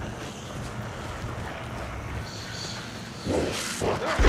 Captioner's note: panting